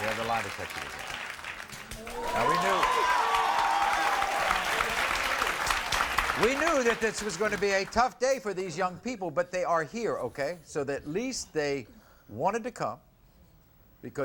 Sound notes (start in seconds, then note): 1.7 audience cheers